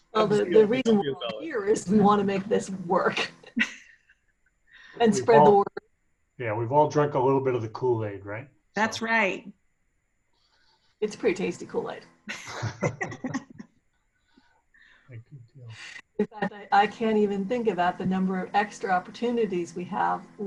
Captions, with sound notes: - Well, the reason we're here is we wanna make this work. (laughing) And spread the word. - Yeah, we've all drank a little bit of the Kool-Aid, right? - That's right. - It's pretty tasty Kool-Aid. (laughing) (faintly speaking) I can't even think about the number of extra opportunities we have,